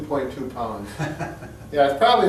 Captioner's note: laughing